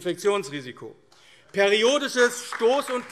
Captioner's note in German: Beifall AfD